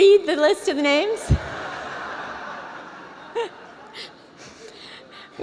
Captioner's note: laughter